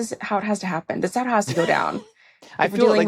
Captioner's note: laughs